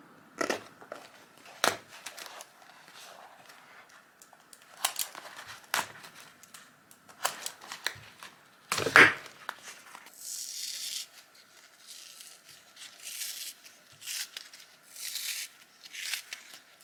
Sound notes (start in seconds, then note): 1.6 craft knife cuts through cardboard; 3.6 tearing sounds; 10.4 peeling apart sounds